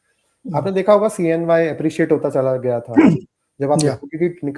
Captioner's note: sound of clearing throat